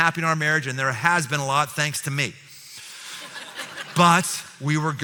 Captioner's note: laughter